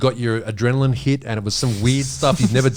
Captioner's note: all laughing